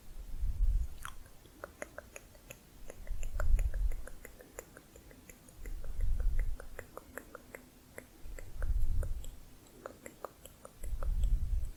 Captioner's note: tongue clicking